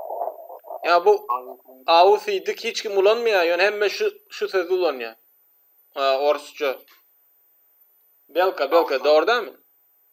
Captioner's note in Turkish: rusça